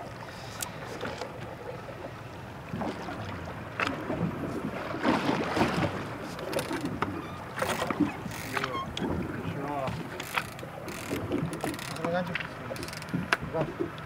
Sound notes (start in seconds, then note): 0.0 fish splashing; 0.2 reel cranking; 5.3 squeaking